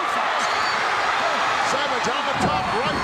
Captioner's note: audience cheering